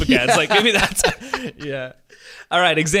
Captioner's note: laughing